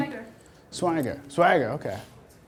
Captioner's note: voiceover